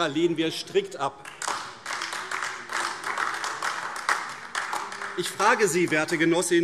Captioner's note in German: Beifall AfD - Lachen SPD und LINKE